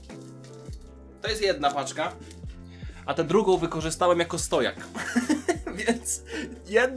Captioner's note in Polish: śmiech